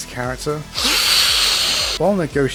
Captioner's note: snooort